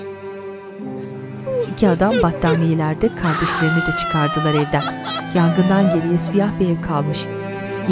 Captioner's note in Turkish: Ağlama sesleri